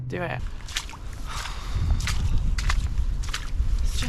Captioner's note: forlorn sploshing